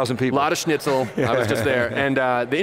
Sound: laughs

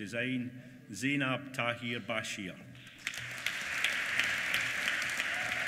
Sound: applause

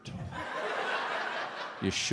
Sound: audience laughs

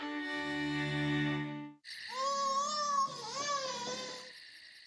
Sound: baby cries

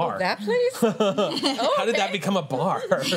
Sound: laughter

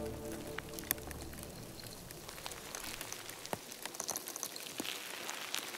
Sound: organisms scraping

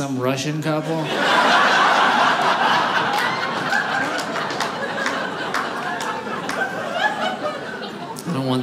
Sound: audience laughing

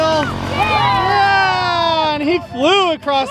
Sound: family cheers

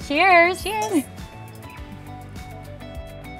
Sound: glasses clink

